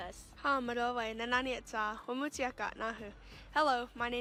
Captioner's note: speaking Comanche